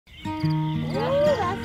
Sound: birds chirping; upbeat music

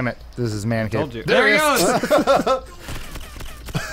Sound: laughing

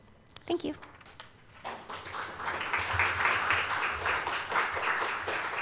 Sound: applause

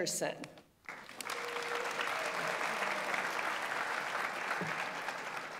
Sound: audience applauds

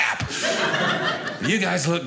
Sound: audience laughing

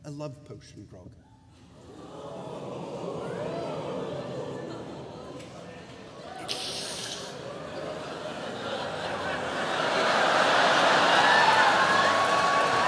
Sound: gasping and cheering

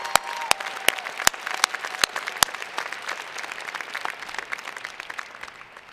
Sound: cheers and Applause

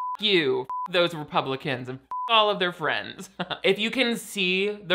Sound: beeps

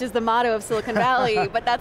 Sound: laughing

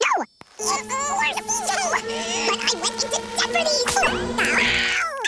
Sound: speaking fast forward

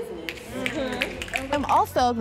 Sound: audience members snapping

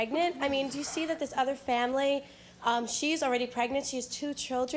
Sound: none

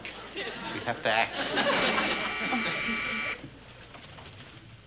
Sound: doorbell buzzes

